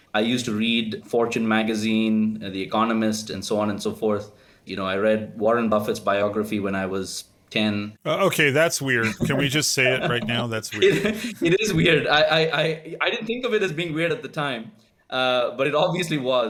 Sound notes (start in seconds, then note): 11.5 laugh